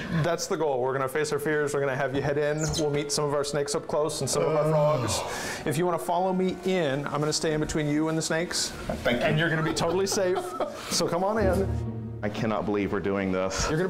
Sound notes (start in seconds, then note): 9.3 laughs